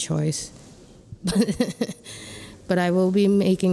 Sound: laughing

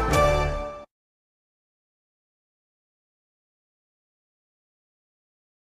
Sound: upbeat orchestral music; silence

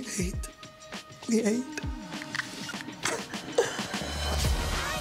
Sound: whispers

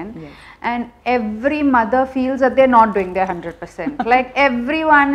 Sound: laughs

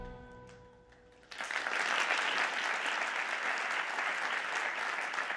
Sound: audience applauds

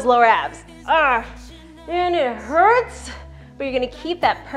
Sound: groans

